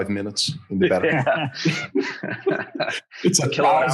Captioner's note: all laughing